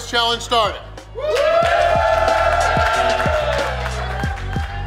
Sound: crowd cheering; crowd applauding; bouncy music

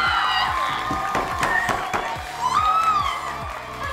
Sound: both scream; canned applause

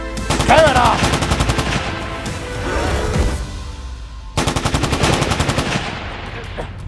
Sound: gun fire sounds

